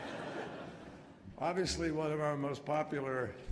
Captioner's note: laughter